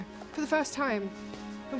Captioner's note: none